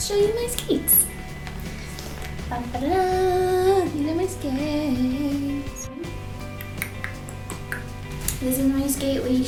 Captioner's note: tongue clicking